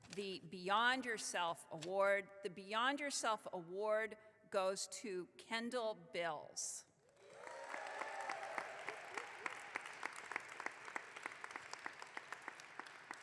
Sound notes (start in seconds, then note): 7.2 audience clapping